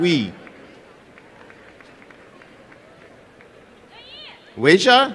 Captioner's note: applause and cheering